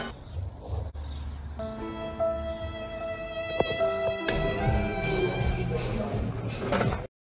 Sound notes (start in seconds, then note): 3.5 soft Sound Effect